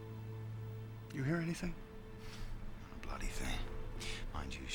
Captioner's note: whispering